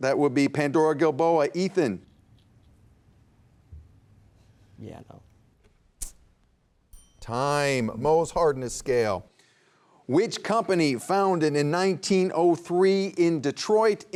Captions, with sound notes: That would be Pandora-Gilboa, Ethan. - Yeah, no. (bell dinging) - Time, Mohs hardness scale. Which company founded in 1903, in Detroit,